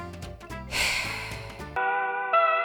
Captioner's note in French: soupire